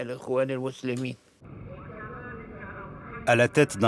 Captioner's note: man speaking into a microphone